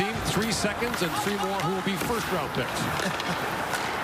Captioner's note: laughter